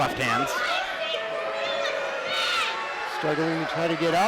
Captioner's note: crowd booing and yelling